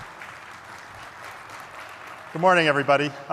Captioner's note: applause